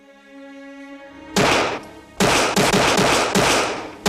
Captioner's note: gunshots